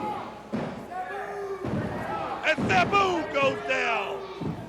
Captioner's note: crowd chatter